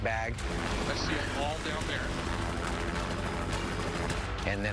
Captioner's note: helicopter whirring